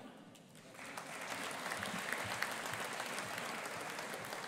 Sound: audience applauding

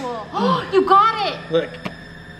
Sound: gasps

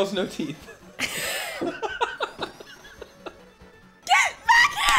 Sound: laughing

